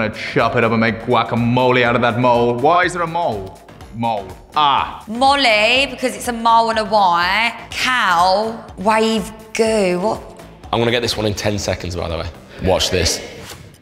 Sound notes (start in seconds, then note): none